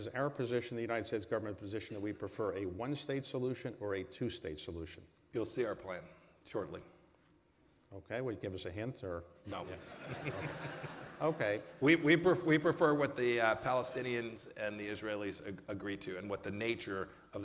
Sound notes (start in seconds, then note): 9.7 laughter